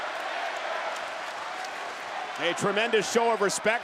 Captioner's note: audience clapping